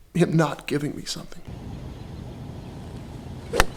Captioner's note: birds chirping; club hitting ball